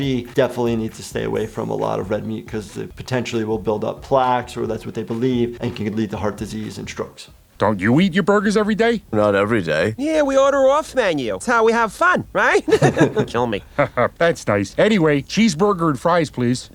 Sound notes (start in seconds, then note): 12.5 Bob and Linda chuckle